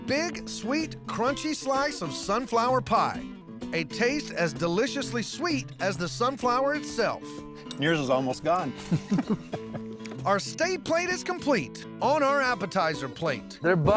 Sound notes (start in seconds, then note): 8.7 chuckles